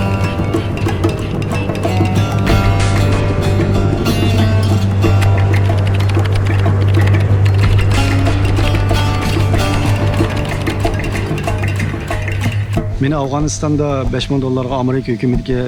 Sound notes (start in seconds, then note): 5.1 keyboard clicking; 13.0 speaking foreign language